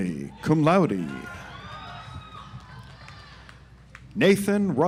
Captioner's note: audience applauds